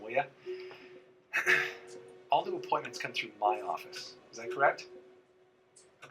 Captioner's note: clears throat